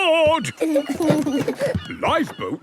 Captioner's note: both giggle